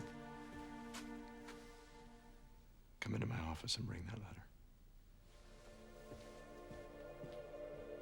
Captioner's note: none